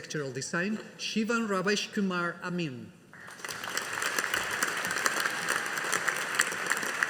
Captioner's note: audience applauding